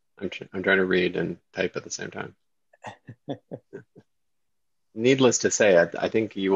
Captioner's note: chuckles